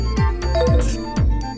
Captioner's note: Animal Crossing SFX